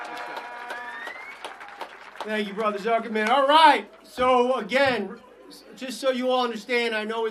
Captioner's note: applause